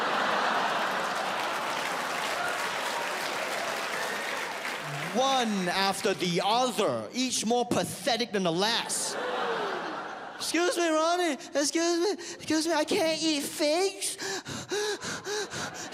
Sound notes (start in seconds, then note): 0.0 audience laughs and applauds; 8.9 audience laughs; 15.1 panting